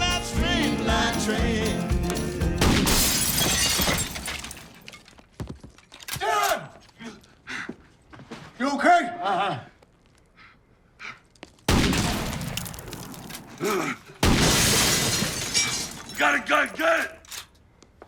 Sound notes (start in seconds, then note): 2.6 glass shattering; 2.6 gunshot booming; 6.5 gun cocking; 11.7 gunshot booming; 12.0 glass shattering; 13.6 Dwight groaning